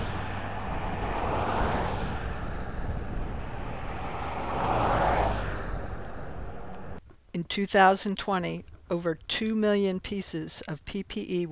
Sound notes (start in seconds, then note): 0.0 engine sound